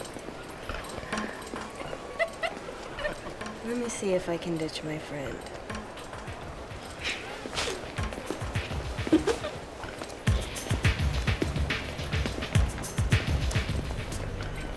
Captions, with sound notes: (laughs) Let me see if I can ditch my friend. (chuckles) (laughs) (upbeat music)